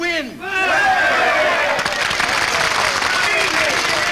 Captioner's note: people cheer